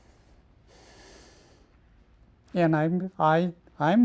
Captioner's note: sighs